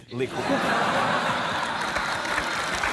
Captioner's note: laughter